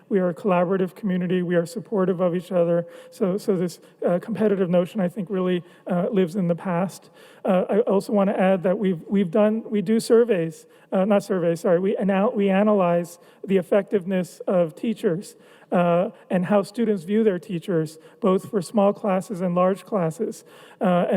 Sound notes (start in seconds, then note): none